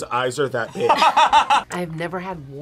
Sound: laughs

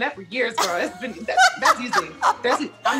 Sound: laughs

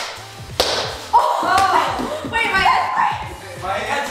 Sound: yelling

